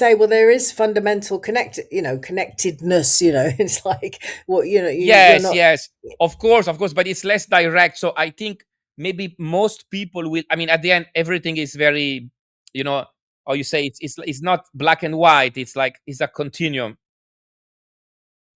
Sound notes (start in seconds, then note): 5.0 laughs